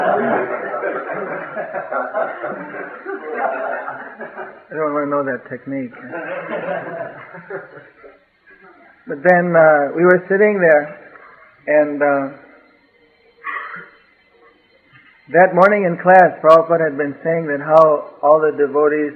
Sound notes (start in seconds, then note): 2.2 laughter